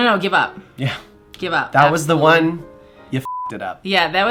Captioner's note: beep